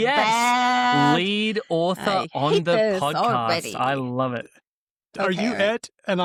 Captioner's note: laughs